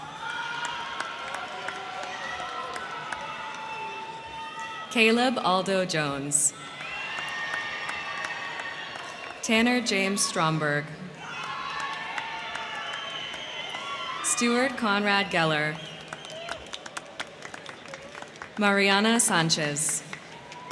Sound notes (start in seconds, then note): 0.0 crowd clapping; 0.2 crowd cheering; 6.5 crowd clapping; 6.9 crowd cheering; 11.4 crowd cheering; 11.4 crowd clapping; 16.1 crowd cheering; 16.1 crowd clapping